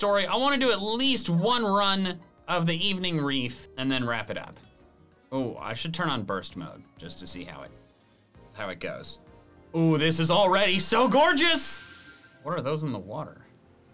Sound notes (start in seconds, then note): none